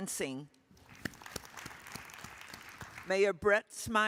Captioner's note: attendees applauding